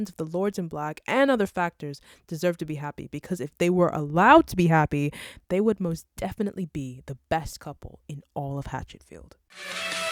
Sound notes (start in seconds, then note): none